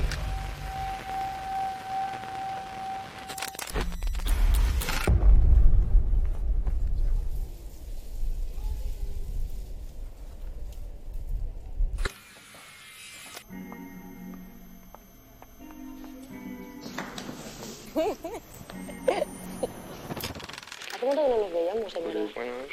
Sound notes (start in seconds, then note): 17.8 off laughing